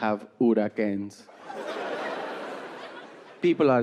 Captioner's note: audience laughing